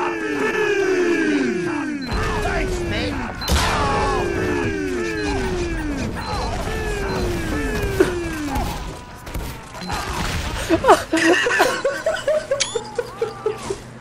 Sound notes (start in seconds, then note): 9.5 laughing